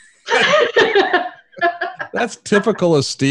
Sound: laughing

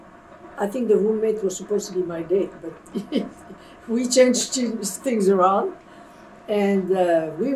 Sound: laughs

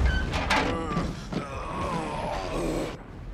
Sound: groaning

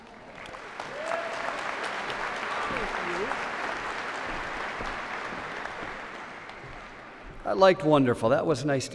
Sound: applause

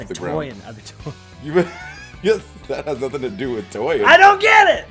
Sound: laugh

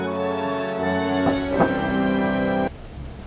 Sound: dramatic music playing; music stops; knock on door

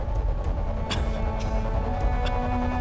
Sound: caveman coughing

